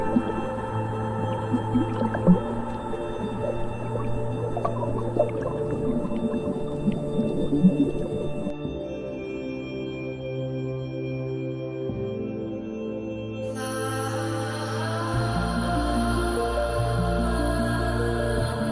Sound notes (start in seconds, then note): 4.1 bright ethereal music; 4.1 water bubbling